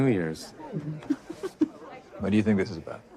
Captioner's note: giggles